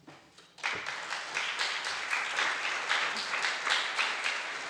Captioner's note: audience applauds